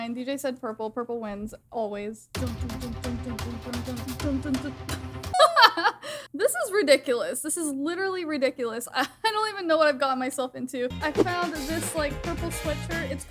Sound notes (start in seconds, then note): 2.4 dramatic music; 5.4 laughs